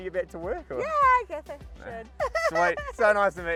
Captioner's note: laughs